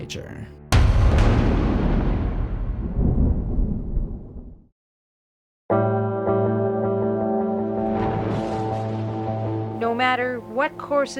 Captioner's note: thunder rumbling